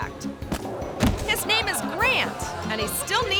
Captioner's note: thuds